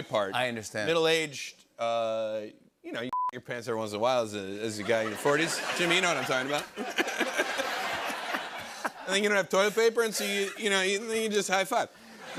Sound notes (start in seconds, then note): 6.7 laughter; 12.0 laughter